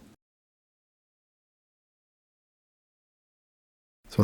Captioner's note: silence